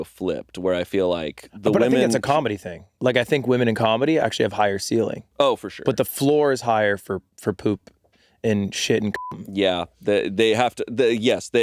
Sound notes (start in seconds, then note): 8.9 beeping